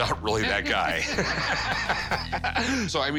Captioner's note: laughter